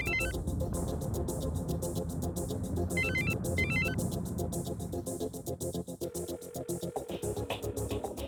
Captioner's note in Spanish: Sigue sonando el celular